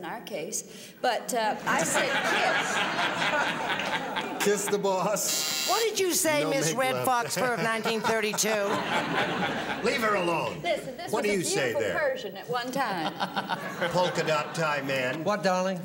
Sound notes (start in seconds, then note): 1.6 laughter; 5.2 buzzer